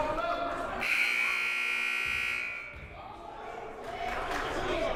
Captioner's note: buzzer blaring; crowd murmuring